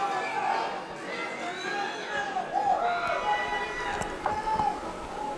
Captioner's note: crowd yelling and cheering